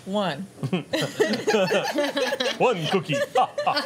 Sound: laughter

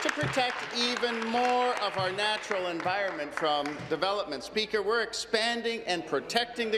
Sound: applause

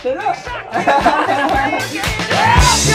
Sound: happy laugh sound

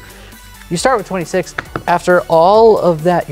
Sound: thumps cards

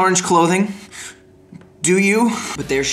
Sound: rapid breathing

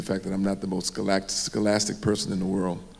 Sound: none

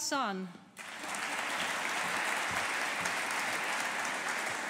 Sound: audience applauding

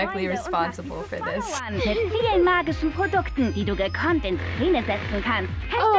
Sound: speaking German

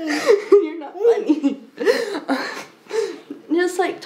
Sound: laughs

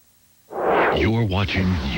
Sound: whoosh

